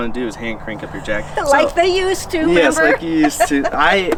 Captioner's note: laughs